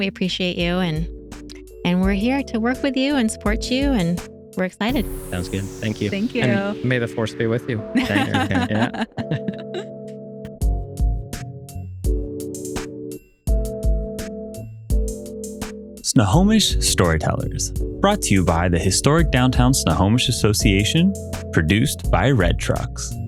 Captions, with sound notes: We appreciate you and we're here to work with you and support you and we're excited. Sounds good, thank you. Thank you. May the force be with you. (Laughing) (Upbeat Music) Snohomish Storytellers, brought to you by the historic downtown Snohomish Association produced by Red Trucks.